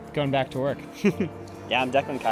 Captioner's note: chuckles